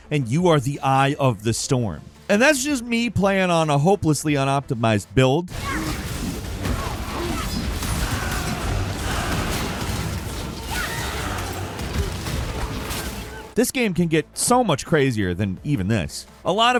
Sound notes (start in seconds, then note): 5.5 weapons striking; 6.6 character screaming